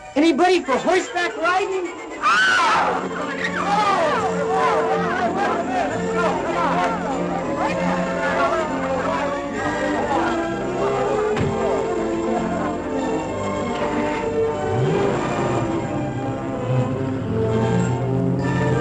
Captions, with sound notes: - Anybody for horseback riding? (shouting) (light music)